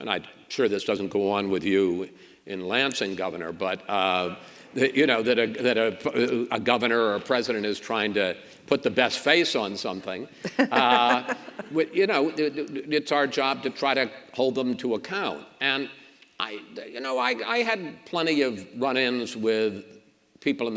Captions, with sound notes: And I'm sure this doesn't go on with you in Lansing, Governor, but... That a governor or president is trying to put the best face on something. (Governor laughs) It's our job to try to hold them to account. And I had plenty of run-ins with people